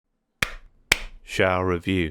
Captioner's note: clap Clap